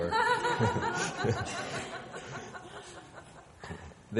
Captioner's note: woman laughing